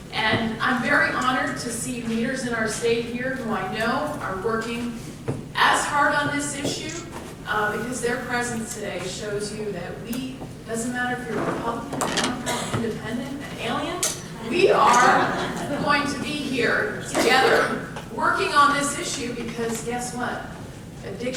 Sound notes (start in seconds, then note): 14.5 audience laughs